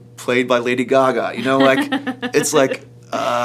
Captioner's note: laughs